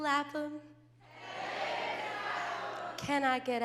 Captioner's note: crowd